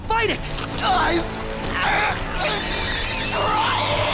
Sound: groans

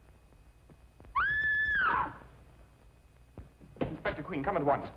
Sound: she screams

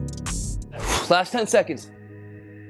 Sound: exhales loudly; mellow hip-hop music

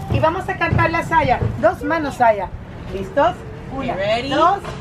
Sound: speaking in foreign language

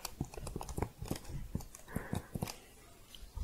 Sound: typing

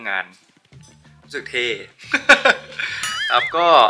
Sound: laugh

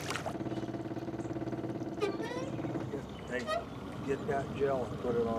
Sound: fish splashing; boat enging idling

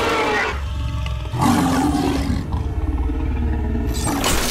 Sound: screeching; growling

